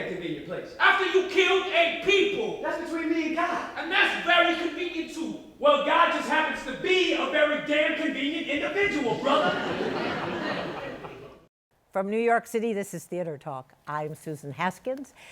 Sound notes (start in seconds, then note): 9.0 laughter